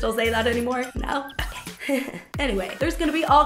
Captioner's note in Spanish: risa incómoda